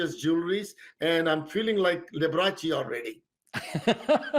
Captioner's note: laughing